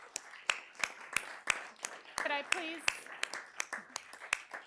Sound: applause

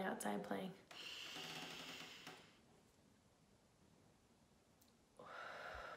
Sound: inhaling and exhaling slowly

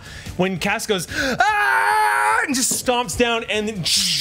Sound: screams

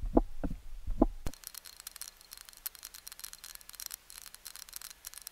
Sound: soft static clicking

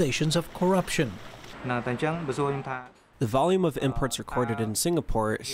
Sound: through translator

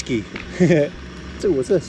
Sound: chuckling

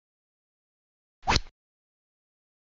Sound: rod sound

